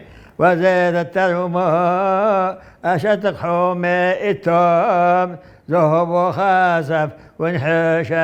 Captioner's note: reciting